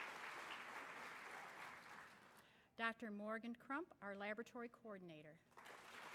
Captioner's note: applause